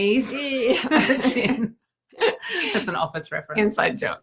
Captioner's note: both laughing; laughing